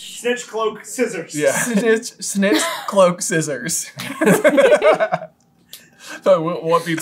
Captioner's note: laughter